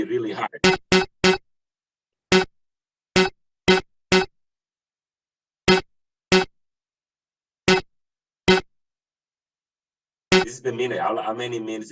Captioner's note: car honking